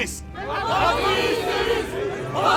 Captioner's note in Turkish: Hep bir ağızdan